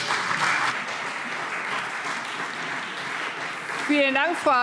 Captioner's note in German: Beifall